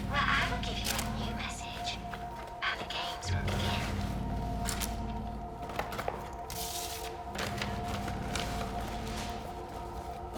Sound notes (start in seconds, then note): 5.5 paper rustling